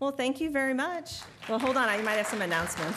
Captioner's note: applause